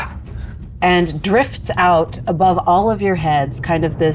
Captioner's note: grunting